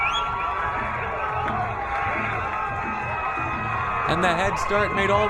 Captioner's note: crowd cheering